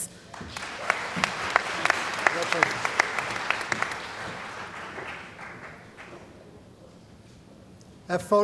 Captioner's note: applause